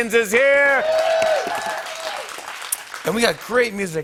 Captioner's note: cheers and applause